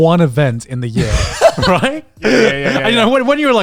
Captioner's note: group laughs